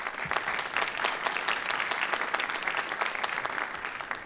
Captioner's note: applause